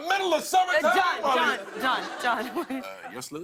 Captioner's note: laughter